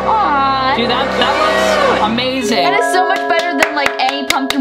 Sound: claps

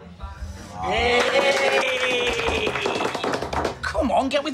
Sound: cheering and clapping

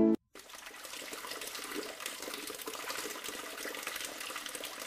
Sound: water flowing

